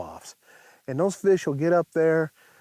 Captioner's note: none